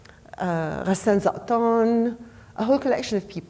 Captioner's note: speaking foreign language name